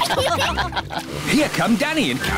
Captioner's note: all giggle